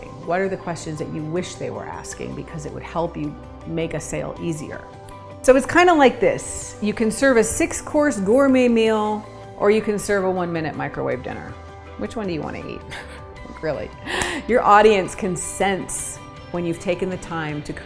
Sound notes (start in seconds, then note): 12.9 laughs